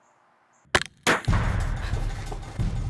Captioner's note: shot cracks